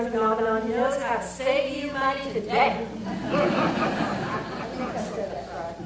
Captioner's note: audience laughter